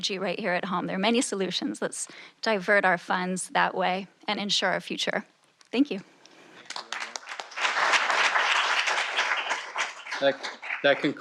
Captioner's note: applause